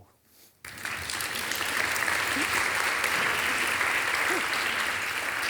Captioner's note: audience applauding